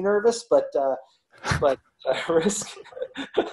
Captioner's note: both laugh